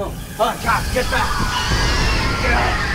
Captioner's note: creature shrieks